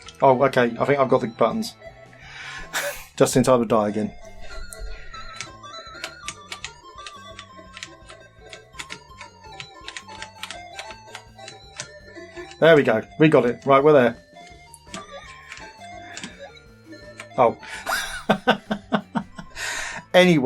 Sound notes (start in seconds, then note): 6.3 spooky music; 8.6 clicking; 17.7 laughing